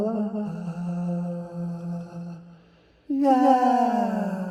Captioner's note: humming